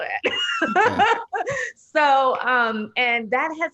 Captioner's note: laughing